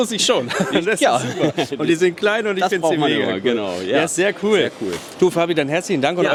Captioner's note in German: gelächter